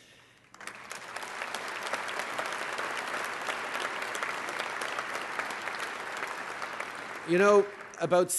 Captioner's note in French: Applaudissements